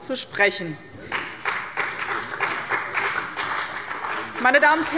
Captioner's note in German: Beifall bei dem BÜNDNIS 90/DIE GRÜNEN und der CDU